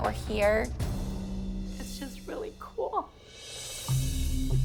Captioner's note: voice breaking